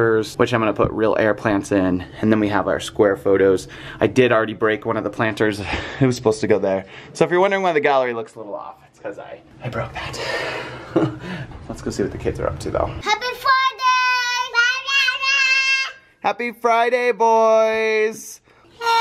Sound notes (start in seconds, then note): 10.6 laughs